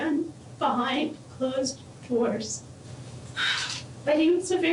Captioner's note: sighs